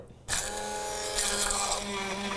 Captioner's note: blender noise